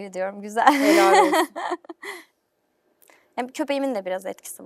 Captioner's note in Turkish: kahkaha